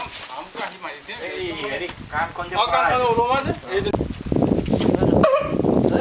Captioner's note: speaking in foreign language